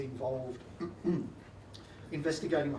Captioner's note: clears throat